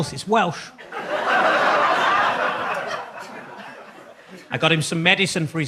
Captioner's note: audience laughs